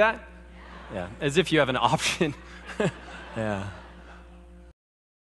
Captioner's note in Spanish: Risas